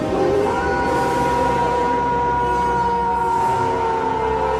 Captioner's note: Werewolf howls